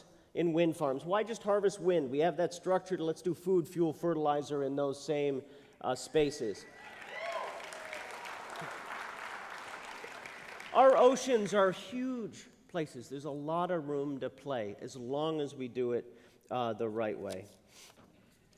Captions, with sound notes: in wind farms. Why just harvest wind? We have that structure. Let’s do food, fuel, fertilizer in those same spaces. [APPLAUSE] Our oceans are huge places. There’s a lot of room to play, as long as we do it the right way.